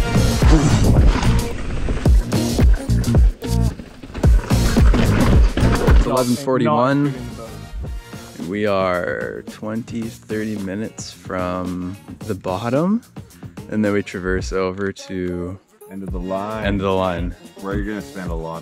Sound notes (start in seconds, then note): 0.2 upbeat groove music continues; 5.4 gravel crunching softly